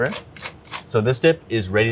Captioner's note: grinder clicking